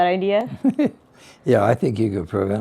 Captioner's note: chuckles